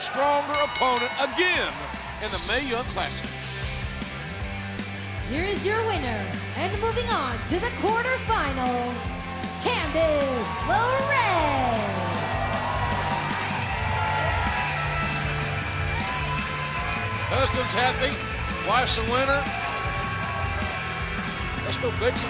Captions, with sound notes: BIGGER, STRONGER OPPONENT AGAIN. [BELL RINGING] IN THE MAE YOUNG CLASSIC. >> HERE IS YOUR WINNER AND MOVING ON TO THE QUARTER FINALS, CANDICE LeRAE! [CHEERS AND APPLAUSE] >> HUSBAND IS HAPPY. WIFE IS A WINNER.